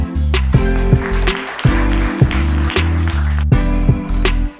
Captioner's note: smooth music; audience claps; smooth music